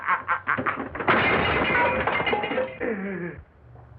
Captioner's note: crashing, glass and metal rattling